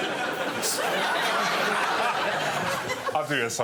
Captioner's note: laughter